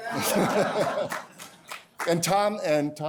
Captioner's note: laughter; laughs